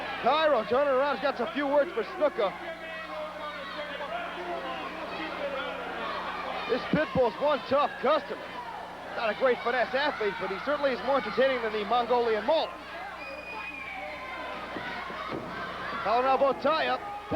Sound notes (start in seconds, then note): 13.0 crowd cheering